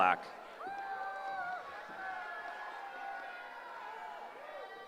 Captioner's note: cheering